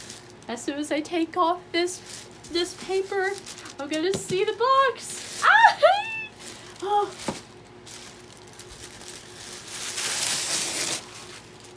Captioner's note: incoherent fangirl squeal